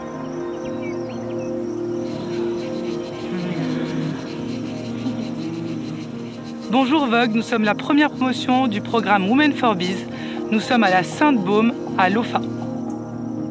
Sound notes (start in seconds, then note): 6.1 speaking foreign language